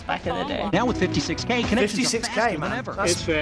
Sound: voice-over

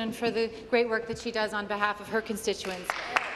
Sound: applause

